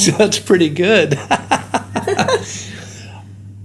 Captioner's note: laughing